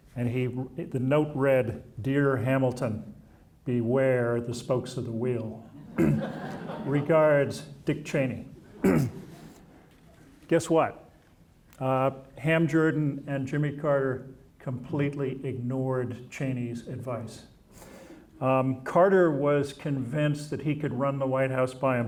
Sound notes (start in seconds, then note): 5.8 audience laughing